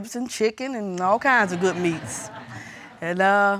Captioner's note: audience titters